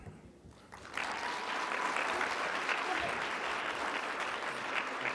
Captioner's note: audience clapping